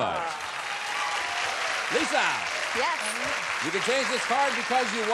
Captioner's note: applause